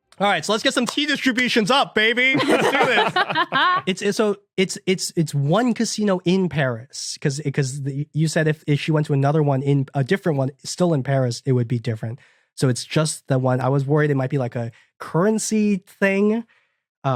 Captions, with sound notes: Alright, so let's get some T distributions up, baby! Let's do this. (others laughing) So, it's one casino in Paris. 'Cause you said if she went to another one in— a different one still in Paris, it would be different. So it's just the one. I was worried it might be a currency thing.